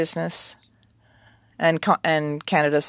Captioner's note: speaking french